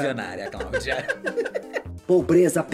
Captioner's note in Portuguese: risos